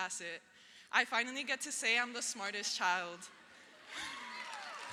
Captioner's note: laughs; audience cheers; audience applauds